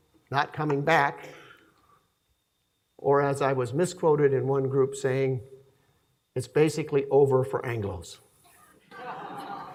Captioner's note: laughing